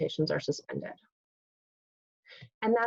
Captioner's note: pause